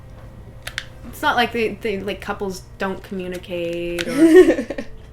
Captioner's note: laughter